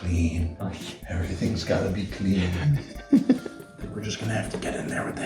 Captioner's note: laughter